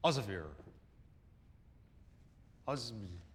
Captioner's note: mumbling